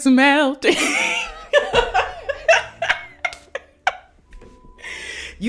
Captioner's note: laughs